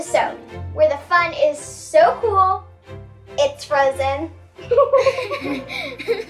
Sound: all laughing; laughs

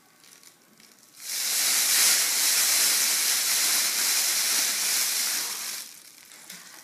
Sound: foil rustling

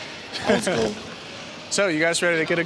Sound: laughs

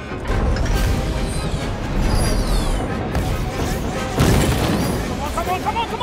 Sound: shooting

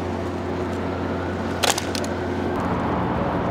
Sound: wind howls

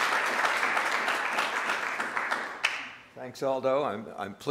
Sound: applause

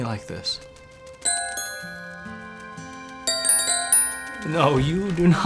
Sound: bells ringing

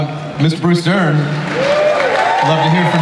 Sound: audience cheering

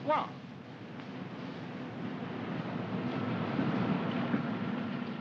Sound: vehicles rumbling

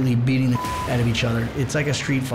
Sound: beep

